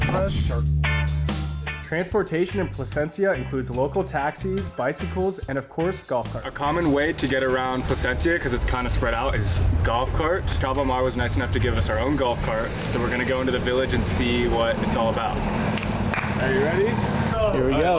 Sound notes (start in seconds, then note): 0.1 quirky music; 6.5 guests chatter